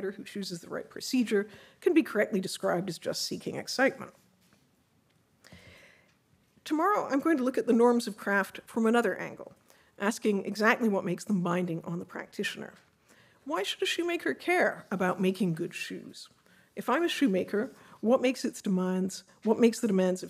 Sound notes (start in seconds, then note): none